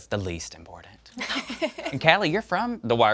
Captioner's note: laugh